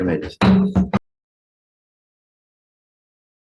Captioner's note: gavel bangs